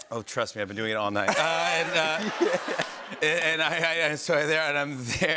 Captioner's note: laughter